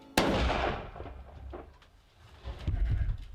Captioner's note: gunshot